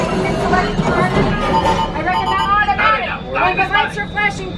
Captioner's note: loud beeping